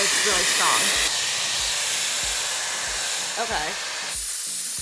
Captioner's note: dryer whirs